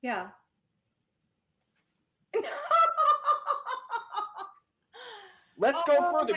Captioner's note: laughing